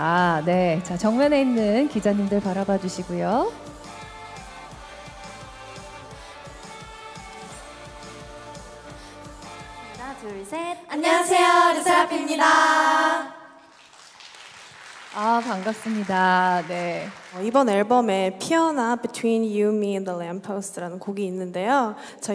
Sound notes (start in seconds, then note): 13.6 clapping